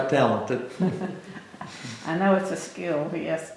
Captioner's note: laughter